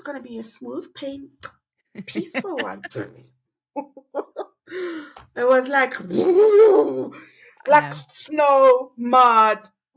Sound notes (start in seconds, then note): 3.8 laughing